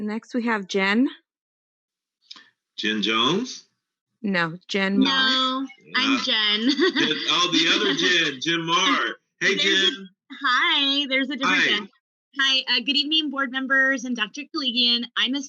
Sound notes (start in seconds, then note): 5.0 laughs